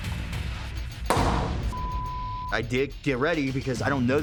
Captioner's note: banging